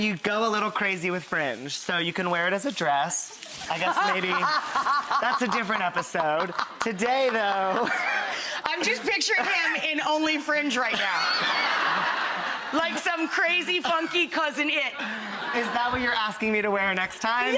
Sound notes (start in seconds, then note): 3.7 laughs; 10.9 audience laughs